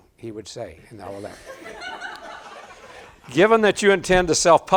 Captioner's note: audience laughing